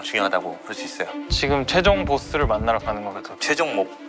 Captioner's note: thump-thump